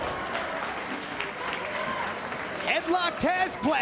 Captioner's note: spectators exclaiming; spectators cheering and applauding